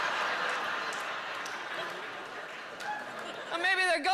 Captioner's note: howling laughter